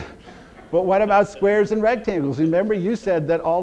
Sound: audience laughter

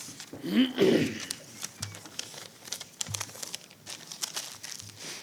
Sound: throat clearing

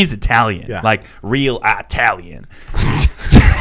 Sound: laughing

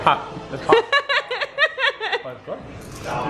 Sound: laughs

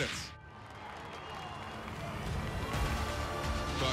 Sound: cheering

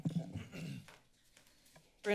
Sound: clears throat

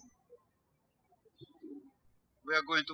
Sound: birds chirping

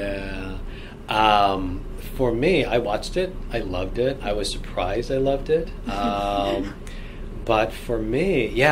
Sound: laugh

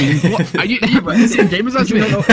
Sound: laughter

